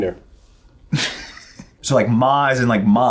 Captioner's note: laughs